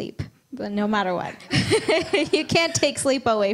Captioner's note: laughs